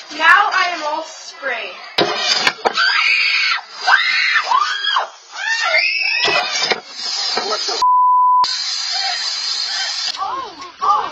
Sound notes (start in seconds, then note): 2.6 kids screaming; 7.8 beep